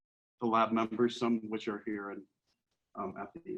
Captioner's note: faintly speaking